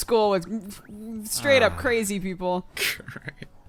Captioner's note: sighs; cry; chuckles